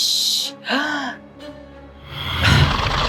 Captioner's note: inhales deeply; low growling